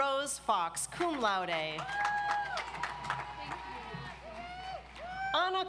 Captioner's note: audience applauds